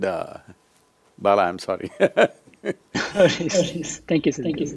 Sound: laughs

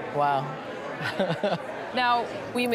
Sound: chuckling

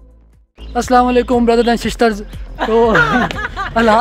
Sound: laughing

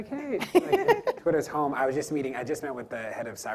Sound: laughs

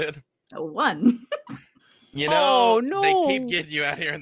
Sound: laughs

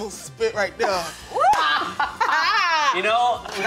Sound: laughing

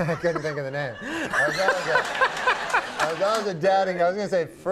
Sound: Conan and audience laughs

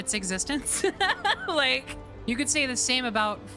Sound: laughter

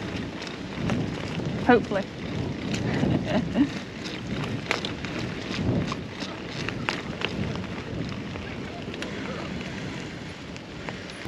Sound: laughter

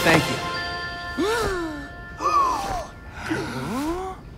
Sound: all gasping

